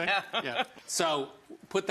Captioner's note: giggles